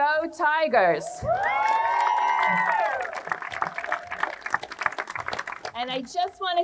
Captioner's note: crowd cheering and applauding